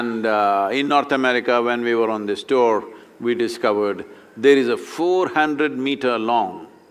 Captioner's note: none